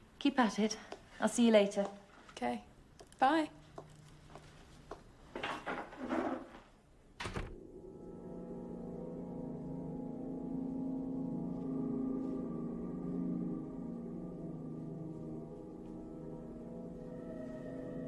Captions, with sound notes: Keep at it. I'll see you later. - Okay, bye. (door closes softly) (foreboding music playing)